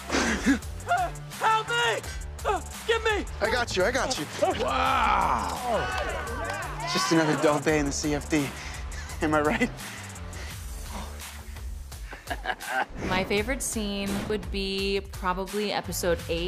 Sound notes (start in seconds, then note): 4.5 cheering; 12.0 laughs